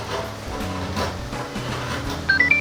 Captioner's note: hehe